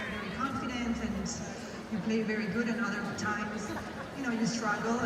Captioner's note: tennis announcing